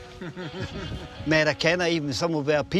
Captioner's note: both laughing